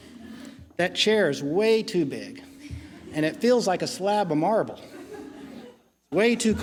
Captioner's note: laughing